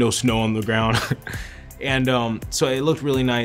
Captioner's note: laughing